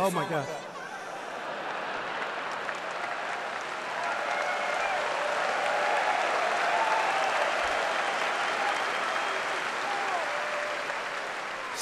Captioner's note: applause